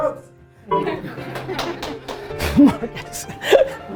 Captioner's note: laughing